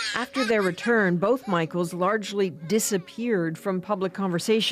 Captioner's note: laughter